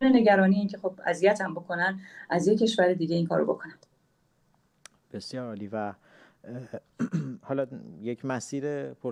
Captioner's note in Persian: گلویش را صاف می‌کند